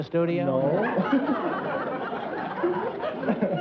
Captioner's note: laughs